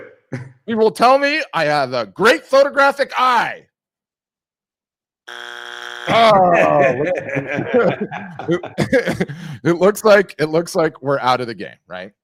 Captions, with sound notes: - You will tell me I have a great photographic eye. (buzzer beeps) (laughs) It looks like we're out of the game.